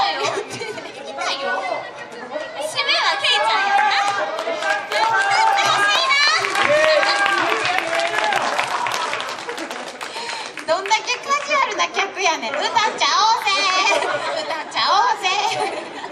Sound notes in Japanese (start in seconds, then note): 6.6 拍手